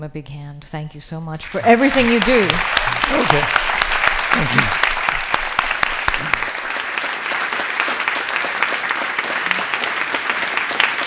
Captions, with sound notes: a big hand, thank you so much for everything you do. - Okay. - Thank you. (audience applauding)